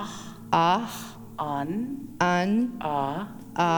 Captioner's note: In Mi’kmaq